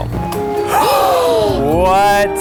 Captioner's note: both gasp